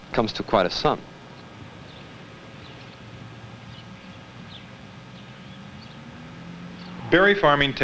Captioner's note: birds chirping